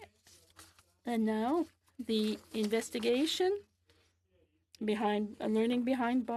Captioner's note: speaking French